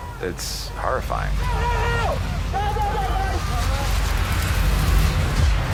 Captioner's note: shouts